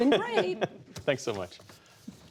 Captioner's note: laughter